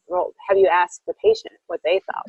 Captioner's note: laughing